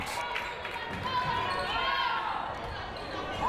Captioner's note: crowd cheering